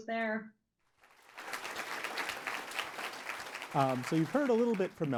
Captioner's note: applause